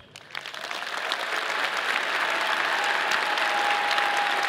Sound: audience applauding

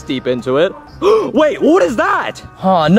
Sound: Mario gasping

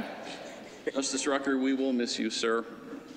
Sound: laughter

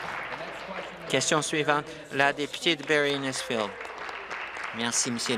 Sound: applause

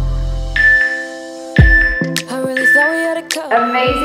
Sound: alarm beeping

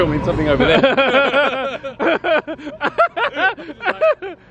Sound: both laughing

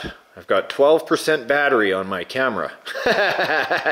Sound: laughs

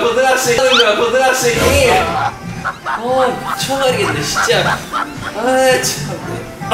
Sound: laughter

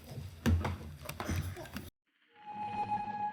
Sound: clattering; ethereal, futuristic music

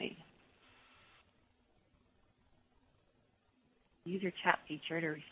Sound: pause

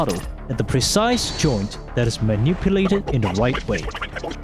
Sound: Morshu speech sped way up

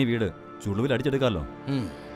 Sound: sighs

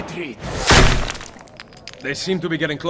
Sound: gunshot; bullet hits wall

